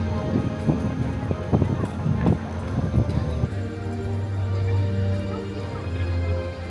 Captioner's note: wind whipping; gentle music